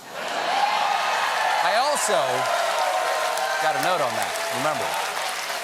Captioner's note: cheers and applause